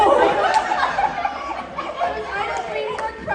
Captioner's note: laughter